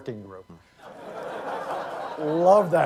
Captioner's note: laughter